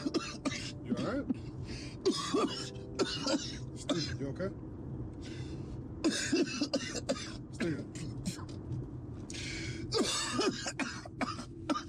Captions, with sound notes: You alright? Steven, you okay? [Coughing]